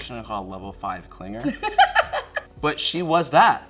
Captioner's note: laughs